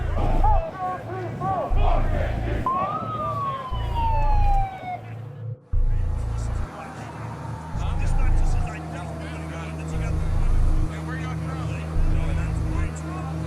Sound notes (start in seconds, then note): 0.0 crowd chanting; 2.9 police siren; 7.4 crowd chattering